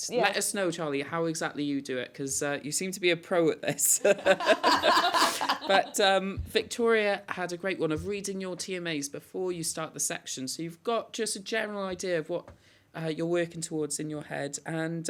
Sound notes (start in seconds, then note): 3.8 laughter